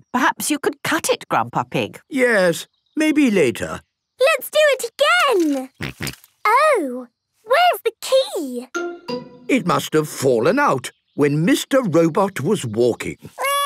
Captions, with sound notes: Perhaps you could cut it, Grandpa Pig. - Yes, maybe later. - Let's do it again! (snorting) Oh. Where's the key? - It must've fallen out when Mr. Robot was walking.